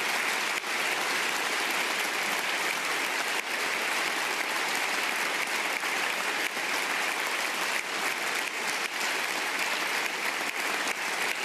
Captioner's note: applause